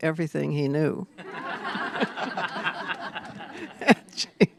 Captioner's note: laughter